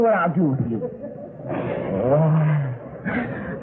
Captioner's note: groans